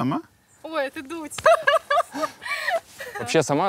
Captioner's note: laughs